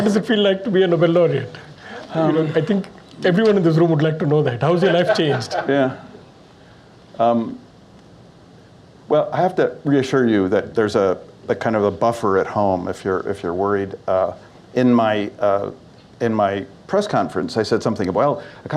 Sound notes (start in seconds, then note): 4.8 laughter